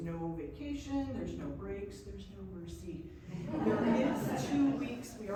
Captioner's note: laughs